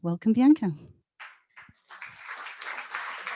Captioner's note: applause